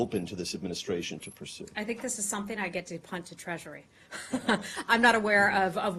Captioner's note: laughter